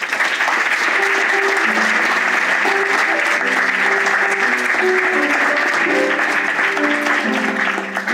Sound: applause and music

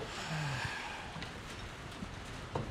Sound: sighs

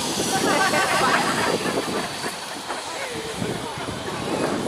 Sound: laughing

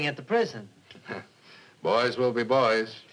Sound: chuckles

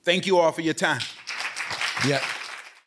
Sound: applause

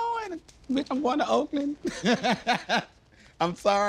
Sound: laughs

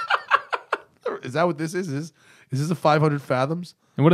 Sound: laughter

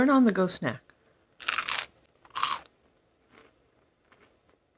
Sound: crunching

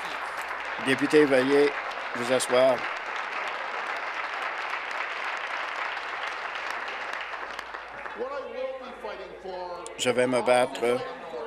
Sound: applause

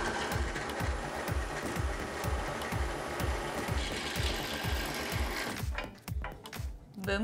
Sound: drill press rattles and drills

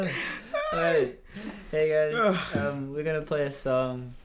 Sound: strum, sighing; Kit stifling laughter; Kit sighing

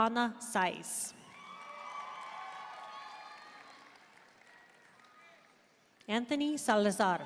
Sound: audience cheering and applauding

